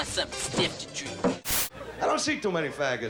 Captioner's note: static